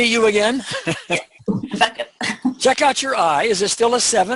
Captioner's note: laugh